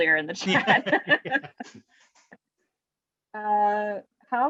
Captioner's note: laughing